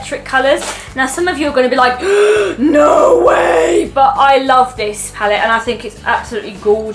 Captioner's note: gasps